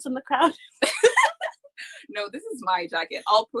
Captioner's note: laughs